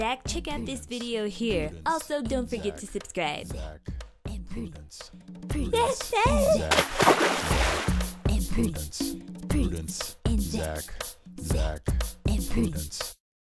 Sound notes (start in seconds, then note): 6.5 water splash